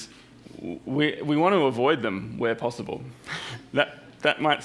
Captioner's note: chuckles